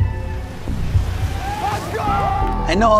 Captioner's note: group cheering